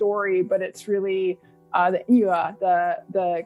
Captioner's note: non-english speech